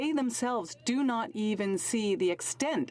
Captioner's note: speaking French